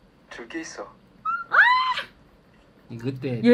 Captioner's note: screaming